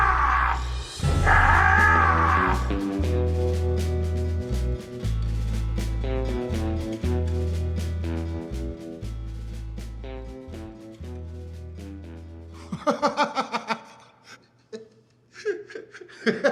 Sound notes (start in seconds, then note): 3.2 dramatic music; 13.0 laughing